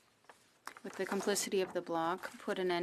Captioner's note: speaking French